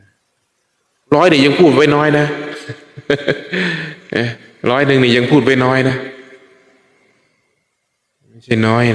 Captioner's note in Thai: เสียงหัวเราะ